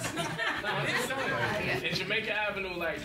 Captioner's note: members laugh